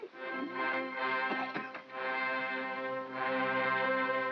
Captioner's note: dramatic regal music; Stan coughs; dramatic regal music